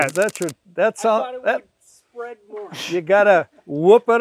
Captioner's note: stuttering